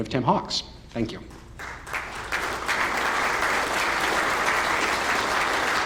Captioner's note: applause